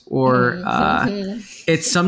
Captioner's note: chuckling